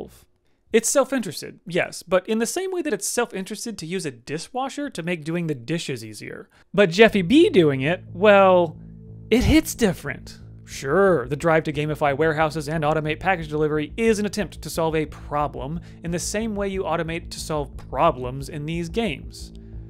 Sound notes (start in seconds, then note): none